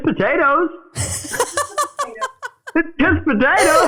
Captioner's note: laughing